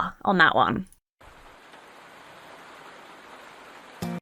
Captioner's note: rain patters